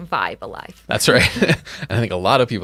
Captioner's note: laughing